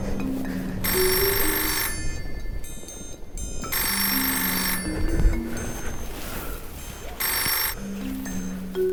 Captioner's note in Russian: звонок телефона